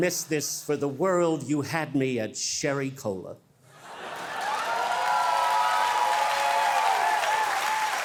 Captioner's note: audience cheering